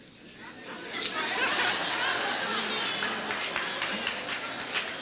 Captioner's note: audience laughs